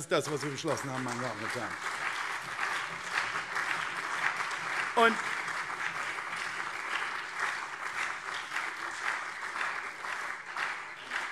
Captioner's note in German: Beifall CDU und SPD